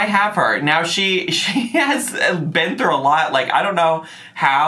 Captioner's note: chuckles